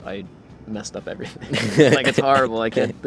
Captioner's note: both laughing